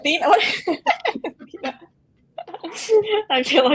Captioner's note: all laugh